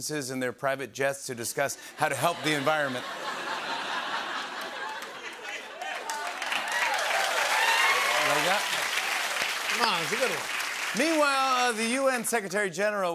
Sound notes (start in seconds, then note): 2.0 laughter; 4.5 applause